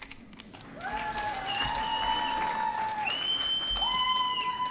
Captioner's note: audience cheering